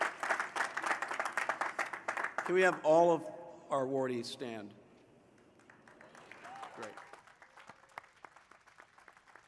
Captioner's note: applause